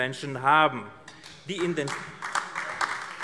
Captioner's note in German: Beifall AfD